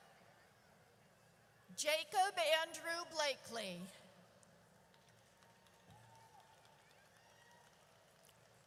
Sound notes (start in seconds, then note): 4.2 audience cheers